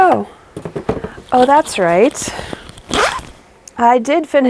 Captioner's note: dramatic unzip